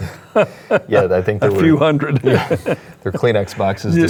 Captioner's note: laughs